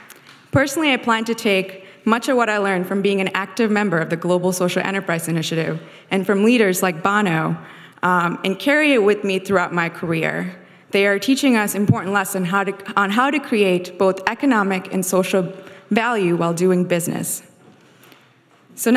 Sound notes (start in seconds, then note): none